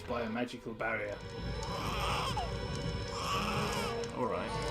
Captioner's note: baby crying